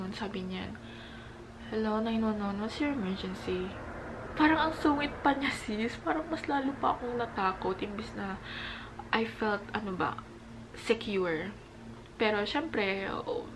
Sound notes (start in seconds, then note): 1.5 calmly